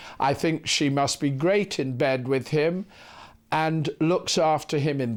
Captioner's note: none